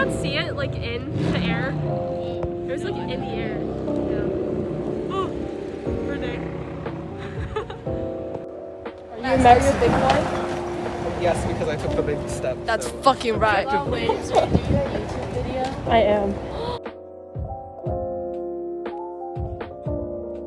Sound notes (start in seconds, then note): 7.0 laughs; 16.5 gasps